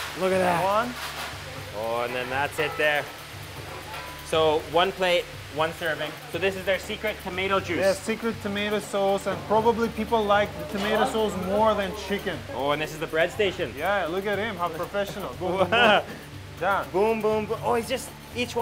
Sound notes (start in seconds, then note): 15.6 laughing